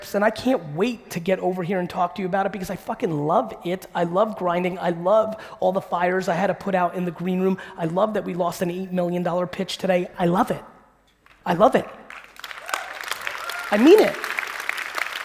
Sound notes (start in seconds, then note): 11.7 audience clapping